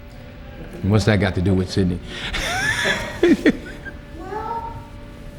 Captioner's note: laughs